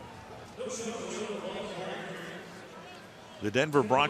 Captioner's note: pa announcement